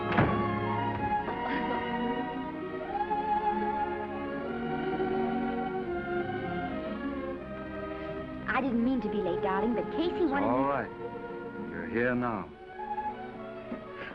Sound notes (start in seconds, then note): 1.3 Esther giggles; 2.6 gentle music